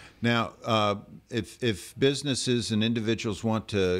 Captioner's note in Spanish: Hablando ingl\s